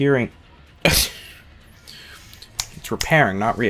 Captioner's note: laugh